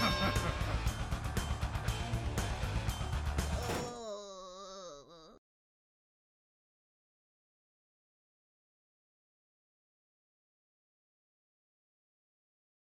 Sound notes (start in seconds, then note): 0.0 wrestler laughs; 3.6 little boy groans